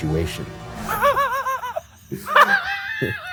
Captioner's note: laughs